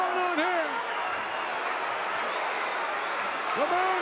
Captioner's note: audience cheering